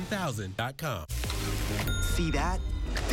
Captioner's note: ding